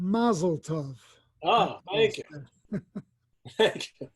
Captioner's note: laughs